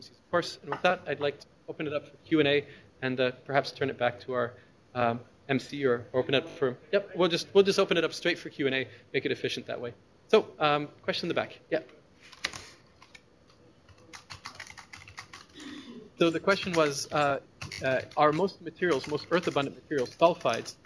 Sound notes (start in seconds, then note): 11.5 pause; 13.8 sound of typing on keyboard in background